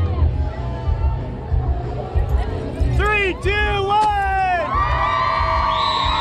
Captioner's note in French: cheers and applause